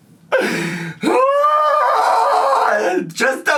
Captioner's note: screaming